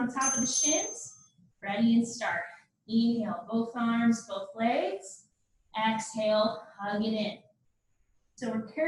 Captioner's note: ding, ding